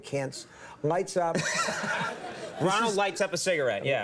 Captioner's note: Conan laughs